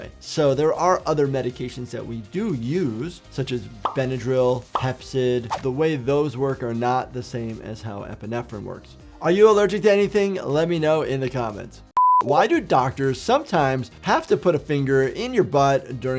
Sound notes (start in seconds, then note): 12.0 beeps